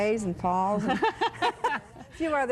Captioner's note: laughs